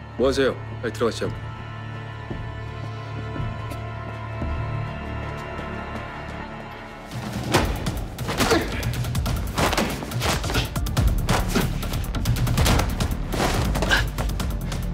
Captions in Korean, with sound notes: 뭐 하세요, 빨리 들어가시지 않고. -(싸우는 소리)